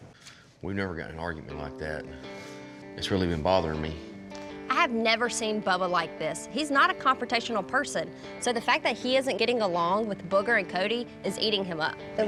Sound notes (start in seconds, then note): none